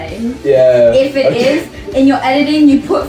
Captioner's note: giggles